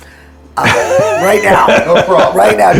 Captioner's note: laughs